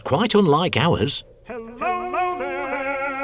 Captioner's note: echoes